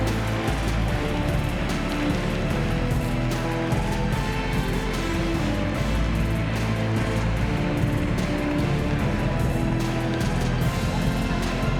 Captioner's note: applause